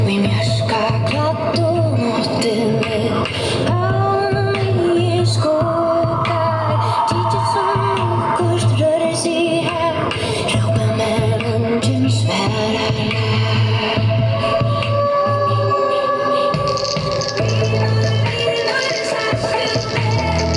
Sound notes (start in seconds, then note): 7.1 Tykist sum okkurt rørir seg har; 14.3 wolf howls